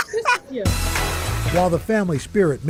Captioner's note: laughter